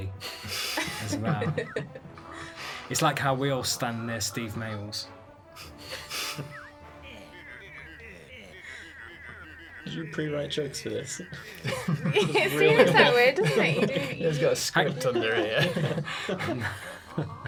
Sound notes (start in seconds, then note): 10.0 laughs